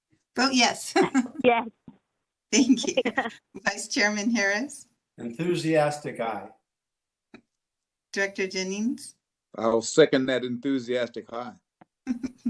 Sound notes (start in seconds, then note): 2.5 laughter